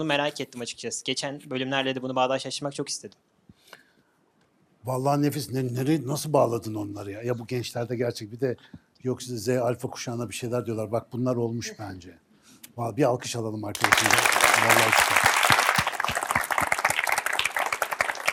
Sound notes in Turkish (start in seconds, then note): 13.7 alkış